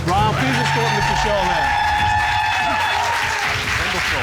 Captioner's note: audience cheer, applaud